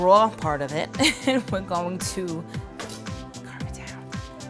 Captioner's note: laughs